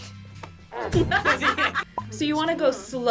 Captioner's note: both laugh